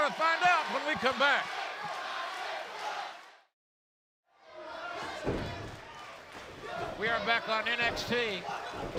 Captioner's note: crowd cheering